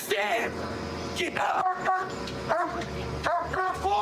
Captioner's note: barking